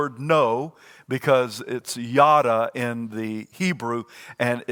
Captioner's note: speaks in foreign language